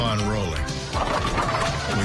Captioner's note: bowling pins knocked down